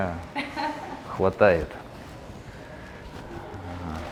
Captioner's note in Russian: смех